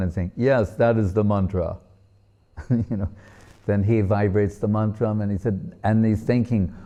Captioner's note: chuckles